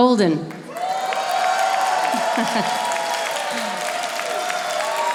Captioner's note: audience applauding